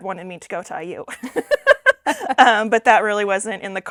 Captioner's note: both laughing